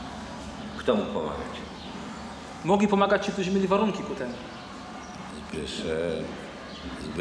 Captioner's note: speaking Polish